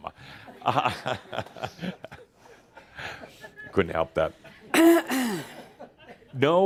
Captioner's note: Adamus chuckles